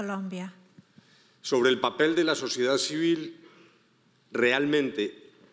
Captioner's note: speaking in foreign language